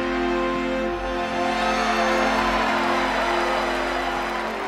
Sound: cheering

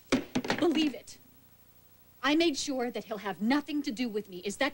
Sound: kathleen slams hairbrush

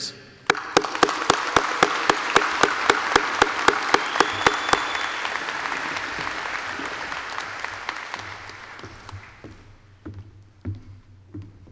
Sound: applause

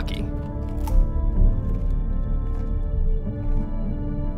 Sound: cracking

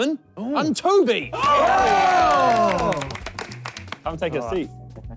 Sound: all cheering

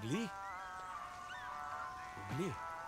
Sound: birds chirping

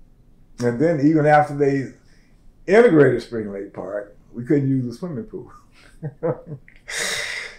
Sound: laughs

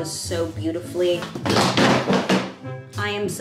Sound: box dropping

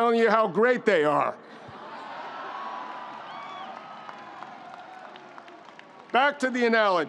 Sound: audience laughs; audience applauding

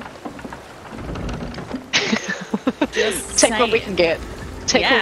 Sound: laugh

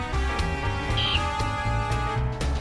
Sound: caw

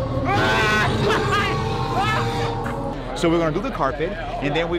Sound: screams

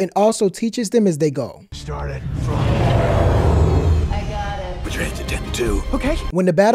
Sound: audio of driving

